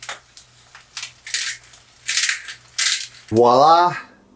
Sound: spice grinding

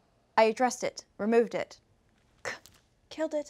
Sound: scoffs

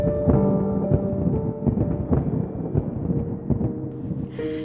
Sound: thunder

